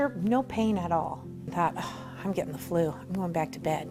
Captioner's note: sigh